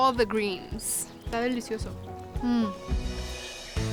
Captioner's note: speaking Spanish